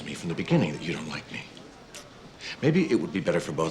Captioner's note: clicks tongue